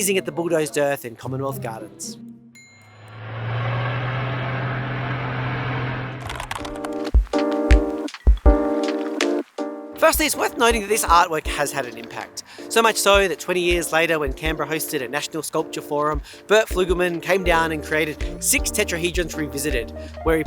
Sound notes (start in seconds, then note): 3.0 bulldozer humming; 6.2 keyboard clicking; 7.3 downtempo music